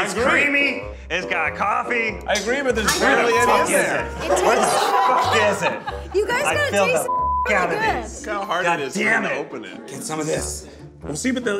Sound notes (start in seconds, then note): 7.0 beeps